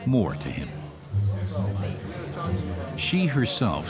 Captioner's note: indistinct chatter